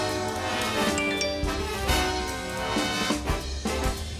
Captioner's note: text notification; playful dramatic music